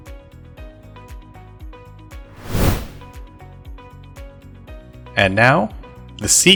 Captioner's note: whoosh Sound